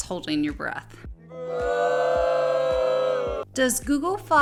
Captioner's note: disappointed booing